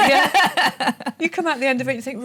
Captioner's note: laughs